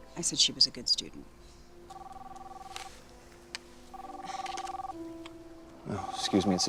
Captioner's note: phone ringing